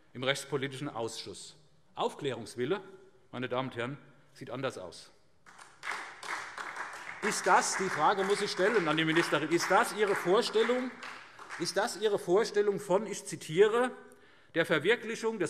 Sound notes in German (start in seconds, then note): 5.4 Beifall SPD